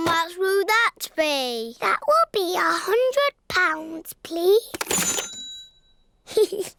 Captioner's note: dings; giggles